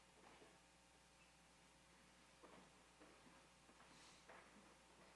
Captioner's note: none